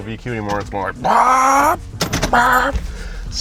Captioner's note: revving; lever clanks; revs